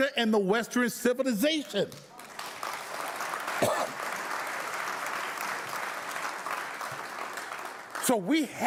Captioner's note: audience applauding